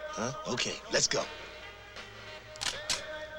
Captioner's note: click